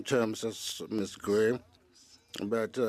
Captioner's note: speaking French